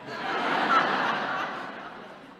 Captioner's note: laughter